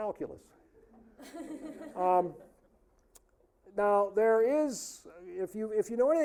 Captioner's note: audience laughing